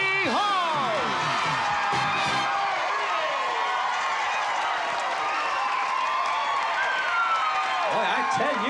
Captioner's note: cheering